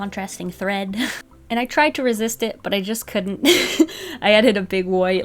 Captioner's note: laughs